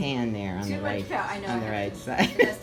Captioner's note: laugh